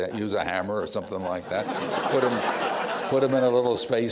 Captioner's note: laughter